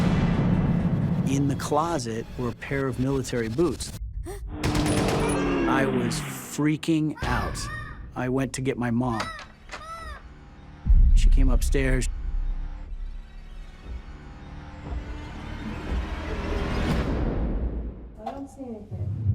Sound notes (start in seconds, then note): 3.8 gasps; 4.6 gun shots